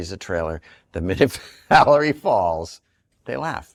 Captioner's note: laughing